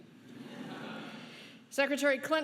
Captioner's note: laughing